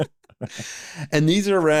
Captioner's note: both laughing